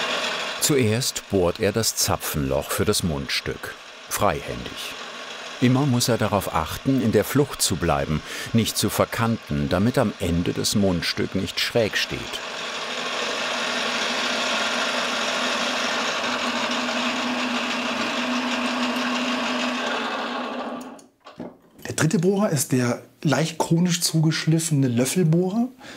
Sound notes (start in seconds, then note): 14.1 humming rattling